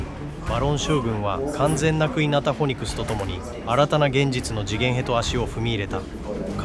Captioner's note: speaker speaking in foreign language